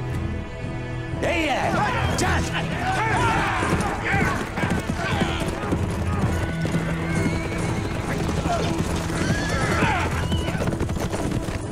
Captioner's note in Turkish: Bağrışma ve nal sesleri